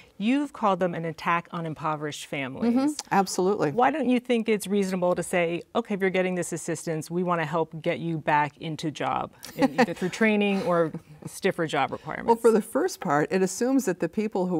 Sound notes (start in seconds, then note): 9.4 laughter